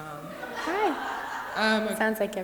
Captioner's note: audience laughs